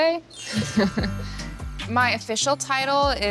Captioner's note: chuckles